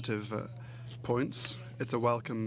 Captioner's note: speaking French